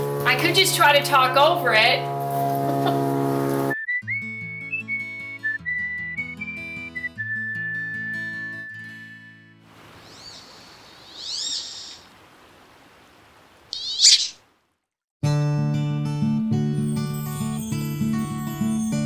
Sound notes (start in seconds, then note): 13.7 high-pitched duck quack